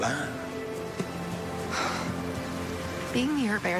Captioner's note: Wynonna sighs